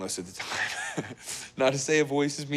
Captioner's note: Risos